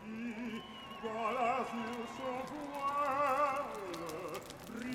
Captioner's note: revelry and fire crackling